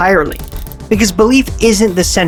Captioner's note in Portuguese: efeito sonoro de chocalho